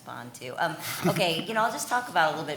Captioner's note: chuckling